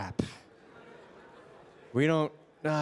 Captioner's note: participants laughing